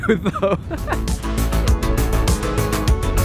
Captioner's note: laughs